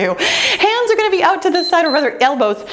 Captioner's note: timer beeps